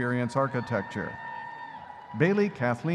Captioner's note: audience cheering